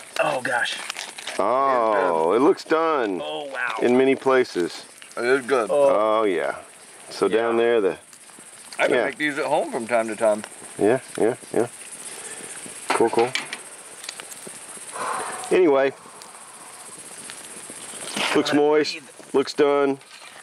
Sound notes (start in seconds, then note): none